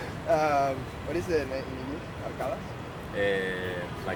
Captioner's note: in spanish